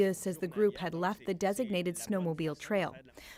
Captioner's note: speaking French